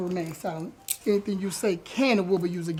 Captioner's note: handcuffs click